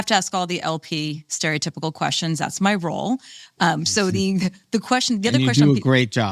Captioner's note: laughs